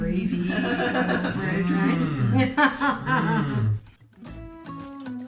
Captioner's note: laughter